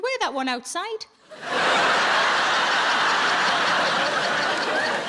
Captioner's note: audience laughs